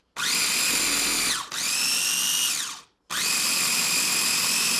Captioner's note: food processor whirring